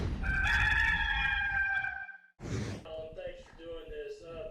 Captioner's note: rooster Crowing